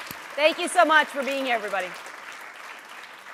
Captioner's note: applause